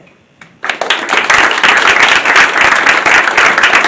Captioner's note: applause